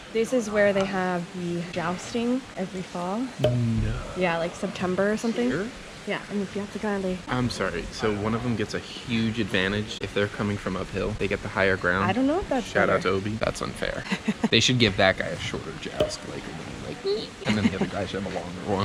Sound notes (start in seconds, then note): 14.1 laughs; 16.6 shrinking noise